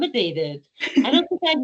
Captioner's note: laughing